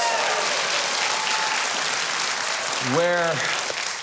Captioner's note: audience cheering; audience applauding